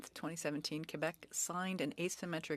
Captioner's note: speaking French